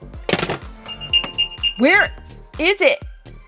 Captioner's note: beeping